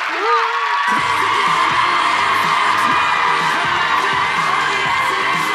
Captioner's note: audience cheers; cheerful pop music